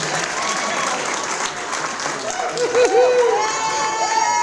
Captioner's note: audience cheering